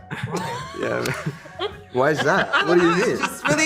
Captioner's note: laugh